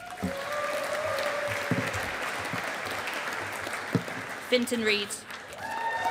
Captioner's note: audience applauding